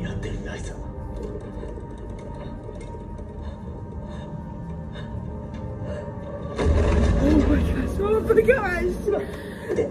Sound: Godzillasaurus stomping

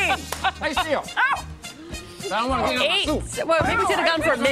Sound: laughter

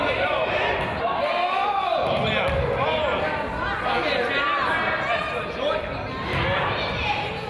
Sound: crowd yells

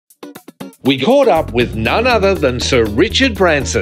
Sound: voiceover

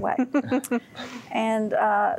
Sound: giggling

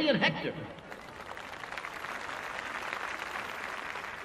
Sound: cheers and applause

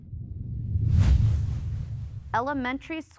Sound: air quivers

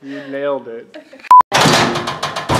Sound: beep; door rattling

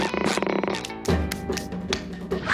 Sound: clapping hands

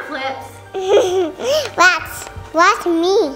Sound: giggles

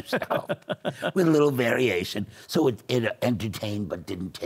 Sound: laughs

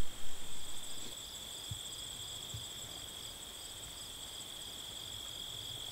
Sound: crickets chirping

